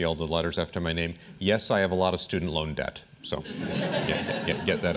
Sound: laughter

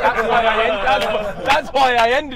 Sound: everyone laughing

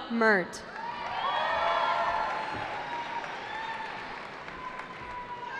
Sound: cheering

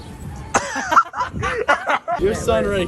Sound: laughs

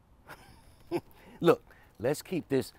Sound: chuckles

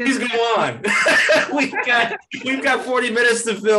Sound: all laugh

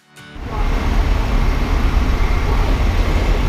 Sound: street sounds

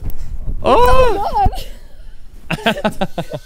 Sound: screaming; laughing

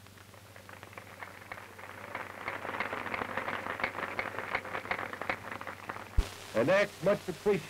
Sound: applause

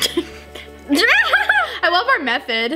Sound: laughs

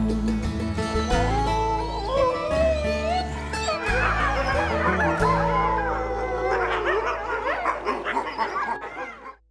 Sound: wolves howling

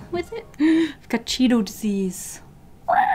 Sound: gasp; screeches like a broken animatronic

